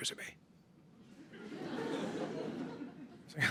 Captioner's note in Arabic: ضحك